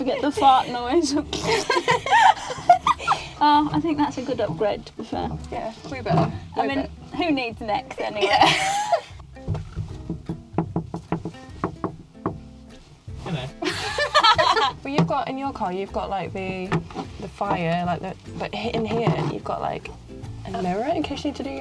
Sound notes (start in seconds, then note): 1.9 fart noise; 2.9 laughing; 7.8 laughs; 9.4 window knocking